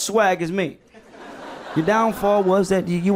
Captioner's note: people laughing